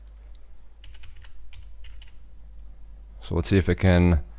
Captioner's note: typing